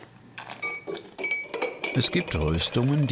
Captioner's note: cutlery clatters